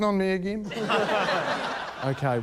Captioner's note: laughter